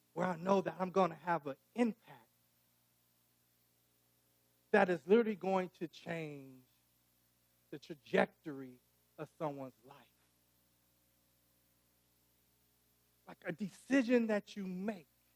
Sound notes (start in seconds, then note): none